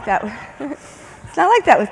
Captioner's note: chuckles